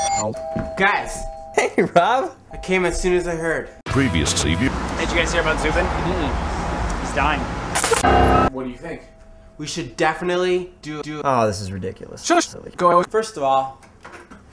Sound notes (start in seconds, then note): 7.8 spits; 8.0 single low piano note